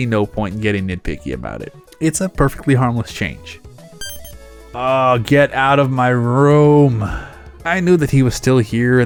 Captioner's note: sigh